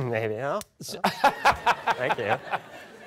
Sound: laughter

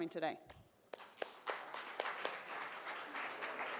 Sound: applause

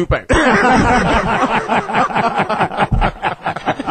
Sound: all laugh

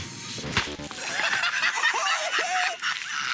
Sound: laughter

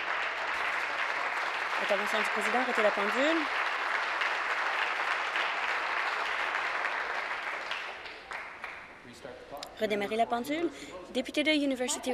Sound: applause

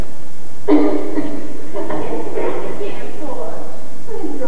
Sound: coughing

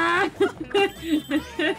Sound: both laugh

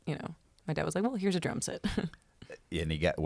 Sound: chuckles

